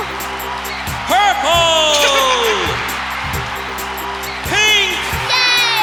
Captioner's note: giggling